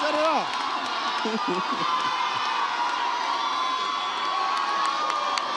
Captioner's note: audience applauds and cheers